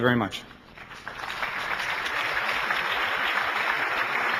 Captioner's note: applauding